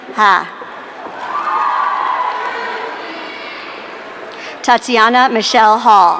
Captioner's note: audience cheering